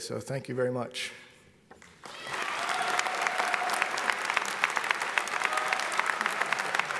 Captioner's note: audience applauds; audience cheers